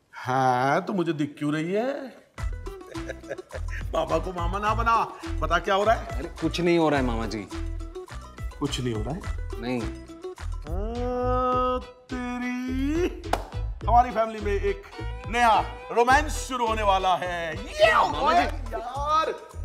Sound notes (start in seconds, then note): 2.7 laughs